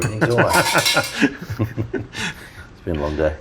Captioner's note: laughing